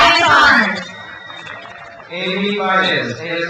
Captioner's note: crowd cheers